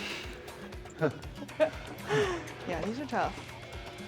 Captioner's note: Sol chuckles